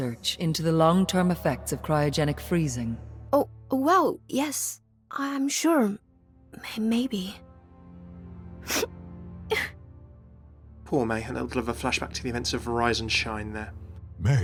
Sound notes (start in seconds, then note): 8.7 sniffing and crying